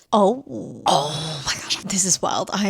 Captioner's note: gasps